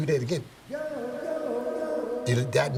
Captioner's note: echoing